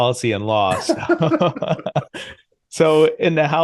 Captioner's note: both laughing